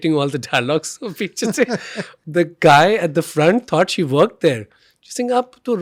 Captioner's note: both chuckling